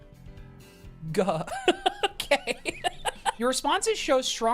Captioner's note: laughs